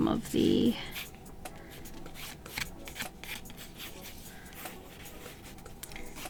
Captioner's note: more drawing noises